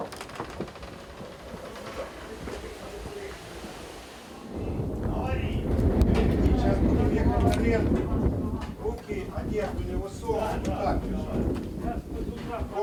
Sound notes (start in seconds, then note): 4.0 winds roaring